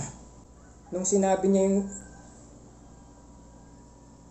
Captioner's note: rooster crows